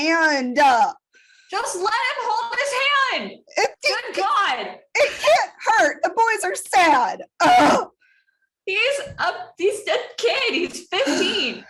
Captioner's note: groan